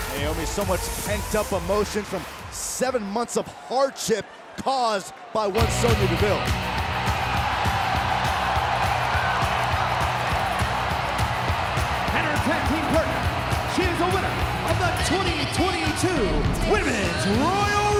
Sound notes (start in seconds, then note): 6.6 crowd cheering; 6.6 upbeat music